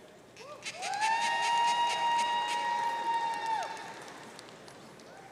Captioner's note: audience cheering